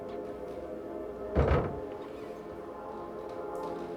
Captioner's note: thumps